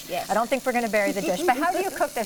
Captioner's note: laughs